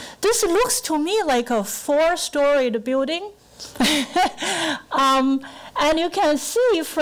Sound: laughing

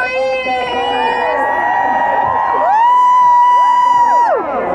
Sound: crowd cheering

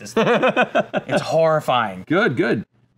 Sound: laughing

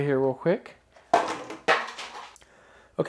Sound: banging

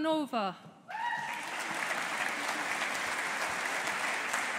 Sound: audience applauding

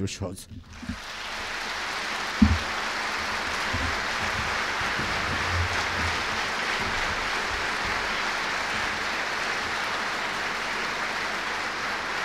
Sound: applause

